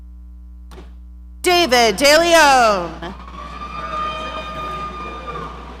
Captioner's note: audience cheering